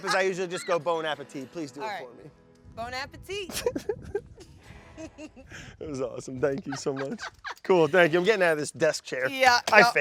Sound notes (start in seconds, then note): 4.1 both laugh